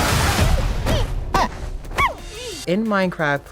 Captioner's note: panda's squeaking